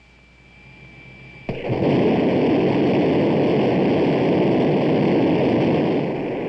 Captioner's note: jet engine firing